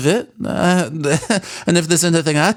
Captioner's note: nervous Laugh